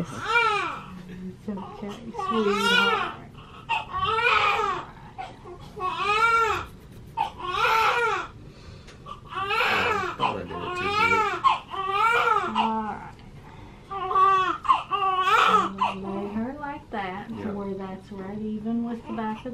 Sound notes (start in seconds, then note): 0.3 baby crying; 4.2 baby crying; 13.9 baby crying